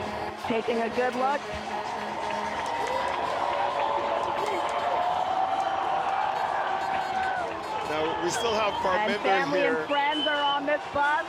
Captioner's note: cheering